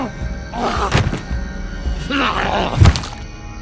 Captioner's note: body thudding